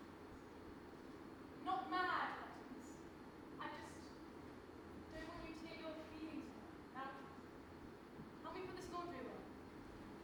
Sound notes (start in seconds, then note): none